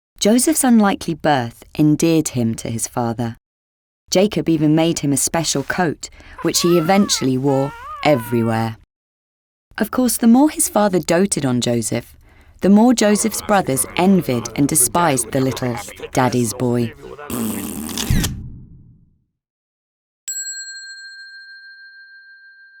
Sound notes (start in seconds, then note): 17.3 man blows raspberry; 20.3 bell dinging